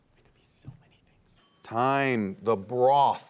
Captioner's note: students whispering; bell dinging